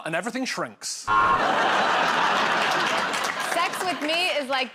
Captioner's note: buzzer